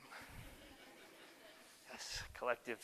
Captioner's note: audience laughter